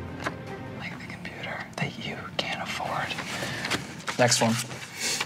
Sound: whispers

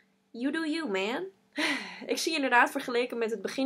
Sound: sigh

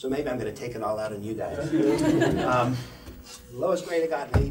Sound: laugther

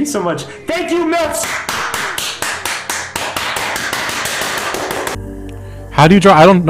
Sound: very loud clapping

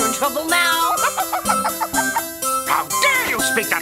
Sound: the Witch giggles

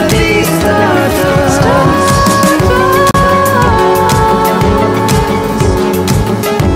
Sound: voice echoing

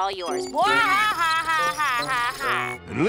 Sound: sarcastic laughing

